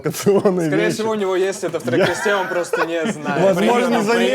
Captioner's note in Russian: смеются